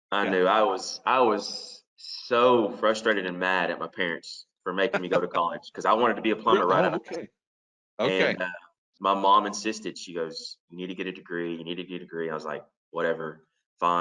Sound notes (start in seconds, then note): 5.9 laughs